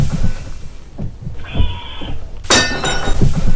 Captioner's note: weird scream